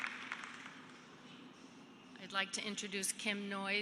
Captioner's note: cheers and applause